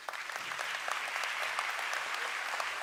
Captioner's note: applause